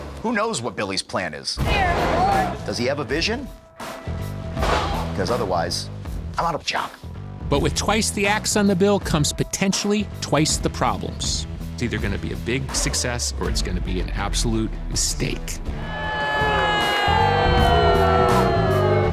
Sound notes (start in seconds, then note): 15.8 crowd booing